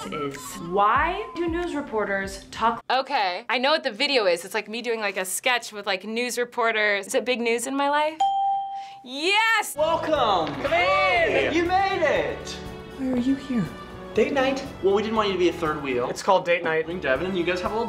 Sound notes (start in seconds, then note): 8.2 ding